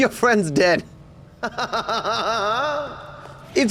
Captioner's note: laughs evilly